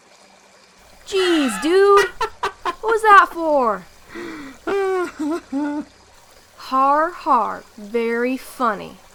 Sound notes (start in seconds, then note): 1.1 Apollo laughs; 4.0 Apollo's laughter dies down